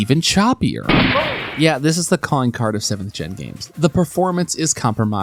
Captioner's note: gunshot